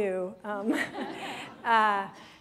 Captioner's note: laughter